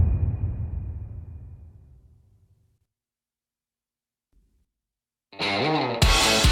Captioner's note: dramatic sound